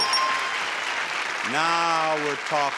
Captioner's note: audience applauds